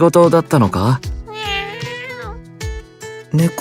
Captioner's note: meow~